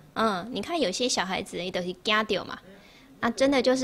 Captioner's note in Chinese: 台語